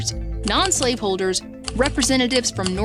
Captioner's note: keypad clacking